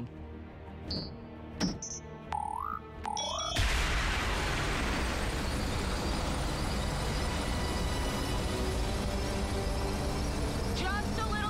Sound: beeping

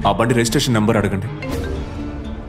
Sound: phone Ringing

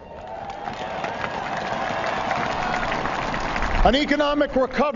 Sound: applause

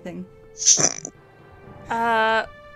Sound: chuckle

